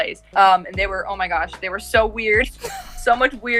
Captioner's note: laughs